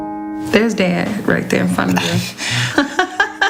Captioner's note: laughs